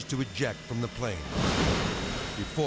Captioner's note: aircraft booms